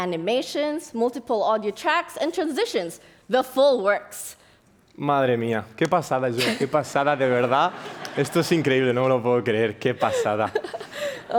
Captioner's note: speaks spanish